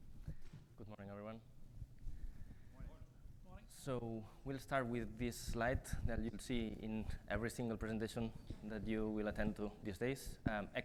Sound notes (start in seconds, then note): 2.5 quiet greetings exchanged